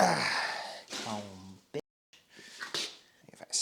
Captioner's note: sighs